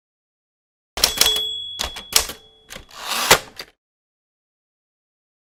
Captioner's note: keyboard clattering; bell rings